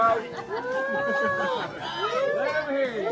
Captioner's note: cheering